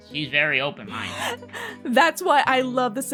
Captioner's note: laughter